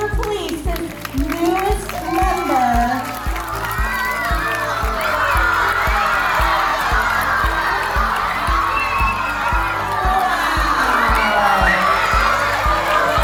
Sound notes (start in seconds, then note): 3.3 clapping and screams; 6.1 rising volume of screams; 13.0 excited audience